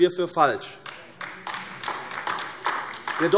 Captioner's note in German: Beifall AfD